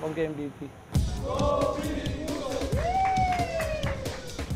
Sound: chanting

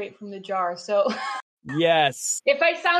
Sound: laughs

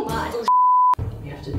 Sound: beep

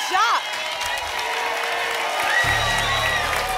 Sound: applause and cheering cont

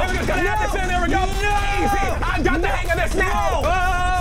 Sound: screaming; low rumbling; yelling

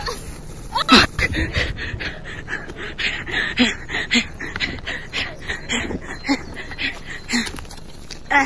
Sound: sounds of struggle; very loud exhausted breathing

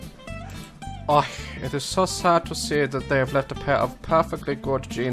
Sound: German accent

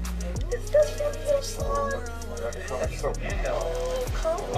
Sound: chatting at once

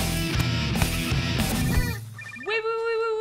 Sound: phone ringing

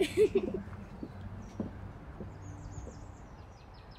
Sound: Hayley giggling

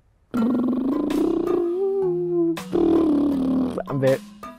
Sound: lip rolling

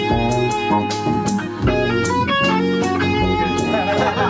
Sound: laughter

